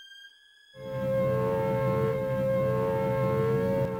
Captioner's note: siren wailing